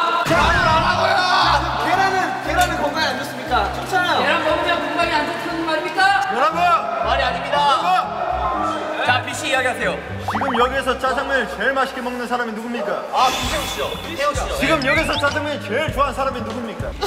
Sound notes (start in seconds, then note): 8.3 gets the chance to speak with his loud voice